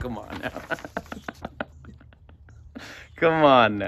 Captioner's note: both laugh